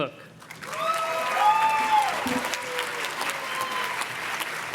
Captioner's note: audience cheers and claps